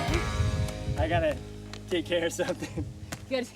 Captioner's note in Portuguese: riso